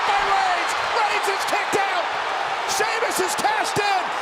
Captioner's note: crowd cheering